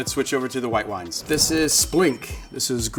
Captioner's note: bell dinging